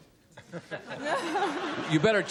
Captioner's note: laughter